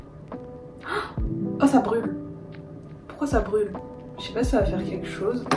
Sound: gasp

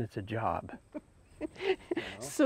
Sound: laughs

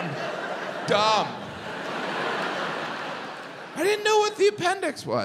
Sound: audience laughs

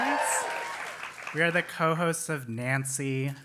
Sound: applause

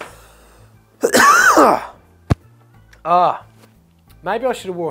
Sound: coughs

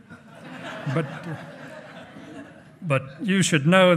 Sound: hearty laughing

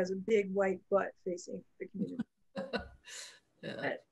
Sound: laughs

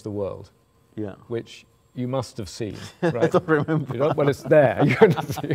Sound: laughing

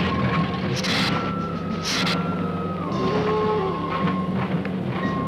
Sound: Gila monster hissing

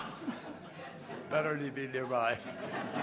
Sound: laughter

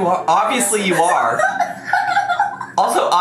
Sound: giggling

